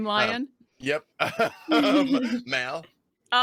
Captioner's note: laughing